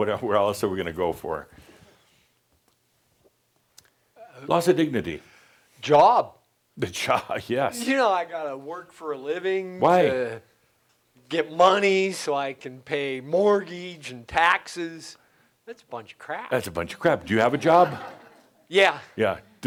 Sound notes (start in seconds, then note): 17.0 some laughter